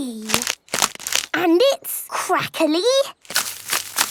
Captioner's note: crackling